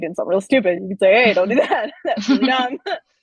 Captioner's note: laughing